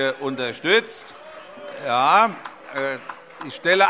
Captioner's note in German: Beifall - Zurufe: Oh!